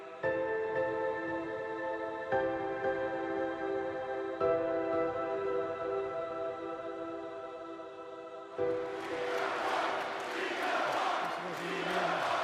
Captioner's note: crowd cheering